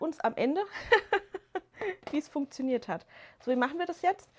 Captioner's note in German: gelächter